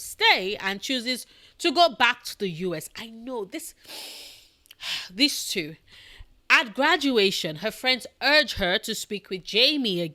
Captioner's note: breathe